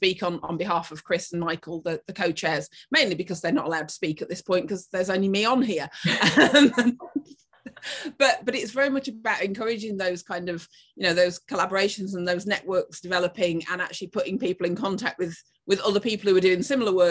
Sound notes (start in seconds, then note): 6.0 laughing